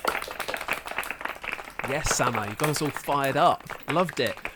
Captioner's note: applause